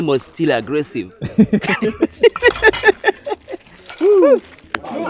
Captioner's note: laugh